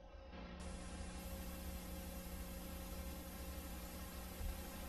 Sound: VHS static

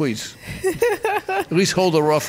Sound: laughing

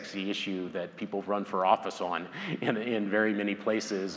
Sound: laughs

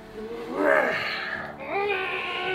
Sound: exasperated meow

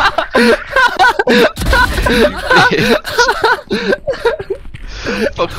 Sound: laughing

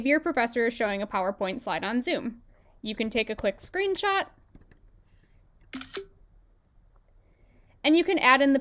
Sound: screenshot sound

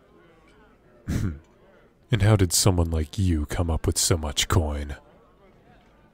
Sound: deep Chuckle

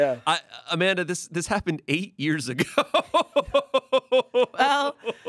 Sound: laughs

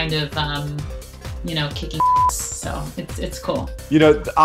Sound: beep

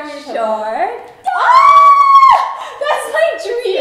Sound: both screaming

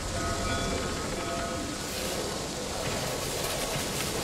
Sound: clanging continues, creaking

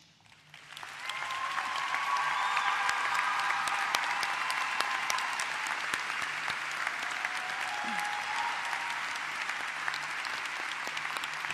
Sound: applause

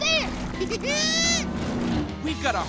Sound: snickering

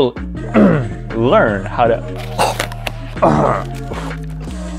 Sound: clears throat; gagging

